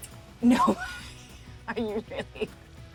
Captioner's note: laughing